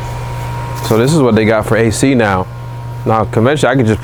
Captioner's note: blowing